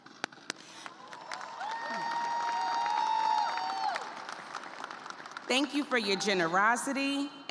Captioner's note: applause; cheers and applause